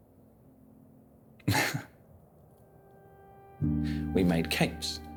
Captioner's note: laughs